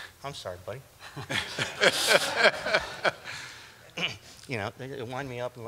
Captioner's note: laughter